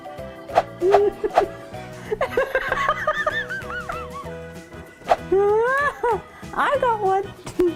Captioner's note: laughing